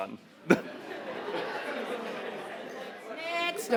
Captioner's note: audience laughing